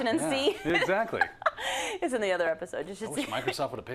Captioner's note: laugh